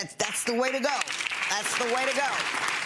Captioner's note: crowd clapping